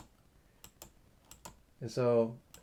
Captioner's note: switch clicking